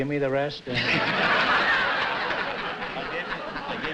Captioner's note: laughter